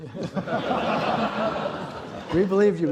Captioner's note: laughter